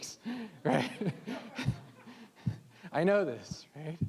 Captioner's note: all laughing